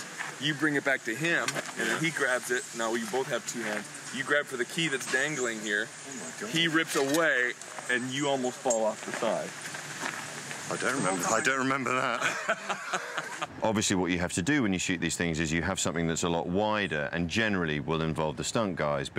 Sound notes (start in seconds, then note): 11.9 laughter